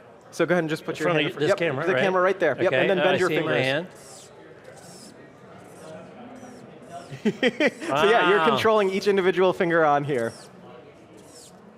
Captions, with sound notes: So go ahead and just put your - in front of this camera? - yep this camera right there - Okay - And then bunch your fingers - Now I see my hand [faint, barely audible mechanical sound as fingers move] [giggles] Wow - You're controlling each individual finger on here.